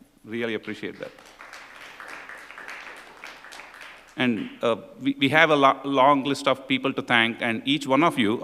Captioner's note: applause